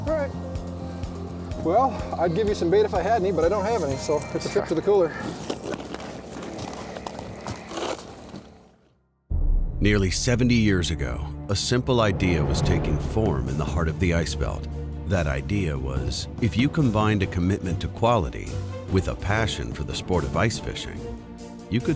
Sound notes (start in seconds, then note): 9.9 voiceover